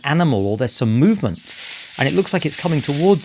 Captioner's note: brush rustling